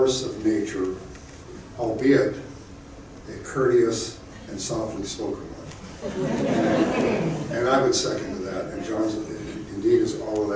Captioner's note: crowd chuckling